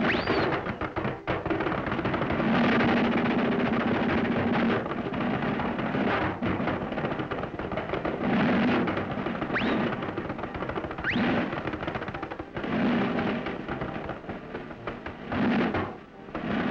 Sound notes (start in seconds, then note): 0.3 kazoo whirls; 3.1 thumps and clanks